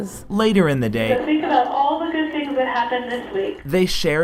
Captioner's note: over intercom